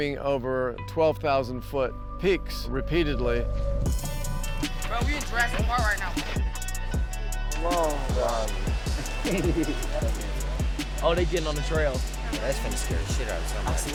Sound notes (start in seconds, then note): 8.9 chuckling